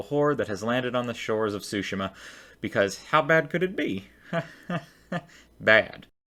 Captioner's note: nervous laugh